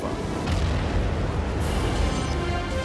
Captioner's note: loud bang